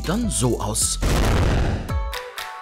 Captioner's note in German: Krachen